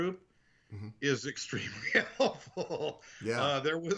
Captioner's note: laughing